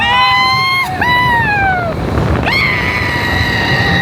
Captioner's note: riders hooting